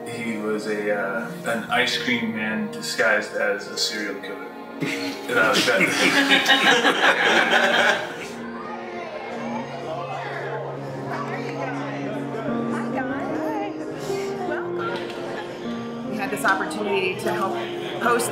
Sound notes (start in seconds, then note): 4.8 laughing